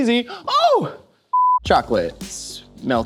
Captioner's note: video beeps